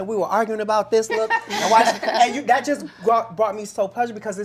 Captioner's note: laughter